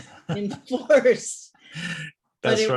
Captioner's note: laughs